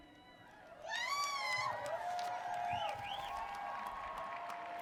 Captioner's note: audience cheers